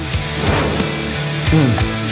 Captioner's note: upbeat music; fire whooshing